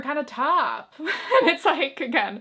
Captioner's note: chuckles